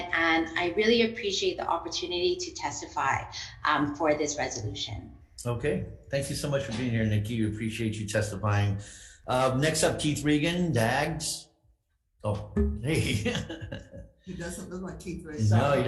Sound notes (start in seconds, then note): 12.8 laughing